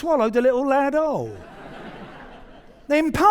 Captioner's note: audience laughing